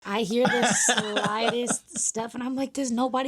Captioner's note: laughing